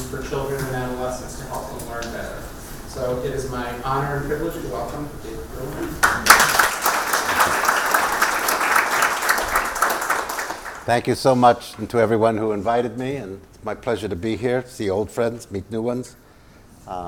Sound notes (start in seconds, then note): 9.9 applause